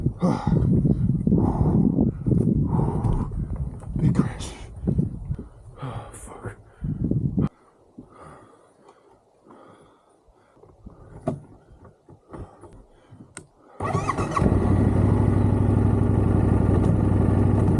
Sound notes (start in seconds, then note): 14.5 sighs in relief